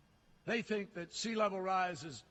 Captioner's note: none